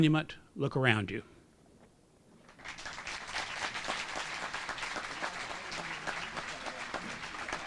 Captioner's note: applause